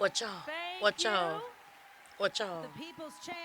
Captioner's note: cheers and applause